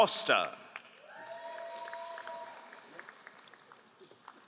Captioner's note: all applauding